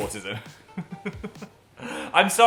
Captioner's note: Dan laughing; Phil laughing